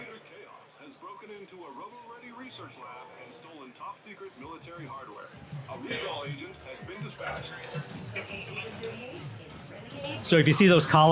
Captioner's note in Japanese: ニュース速報の声 音楽の再生